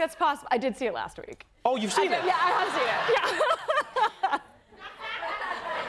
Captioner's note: laughs